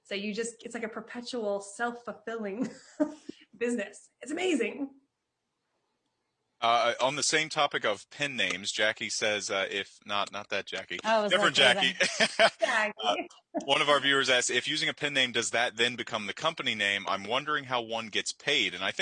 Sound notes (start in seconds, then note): 10.1 laughs; 13.3 chuckles